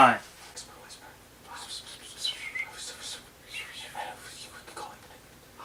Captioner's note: strategic whispering